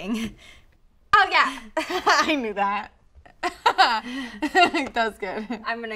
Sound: laughs uncomfortably

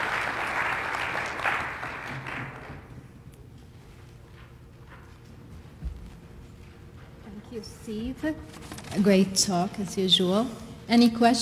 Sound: applause

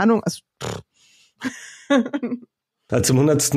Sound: laughs

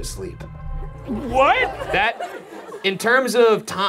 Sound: audience laughs

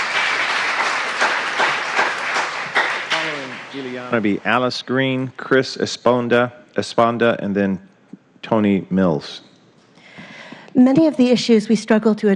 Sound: applause

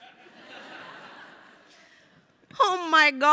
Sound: crowd laughing

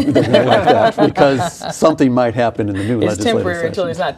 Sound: laughing

